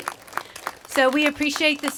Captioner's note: applause